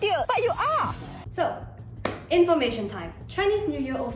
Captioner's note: clap